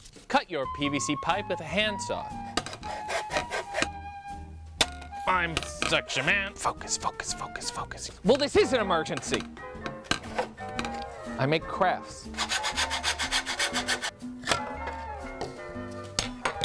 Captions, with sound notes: Cut your PVC pipe with a handsaw [CUTTING SOUND] I'm such a man Focus, focus, focus. Well this is an emergency! I make crafts [SAWING SOUND]